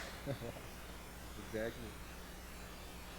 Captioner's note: chuckling